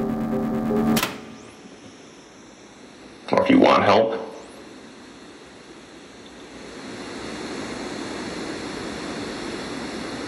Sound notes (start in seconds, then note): 0.0 machine whirring; 0.9 button clicks; 6.2 static buzzing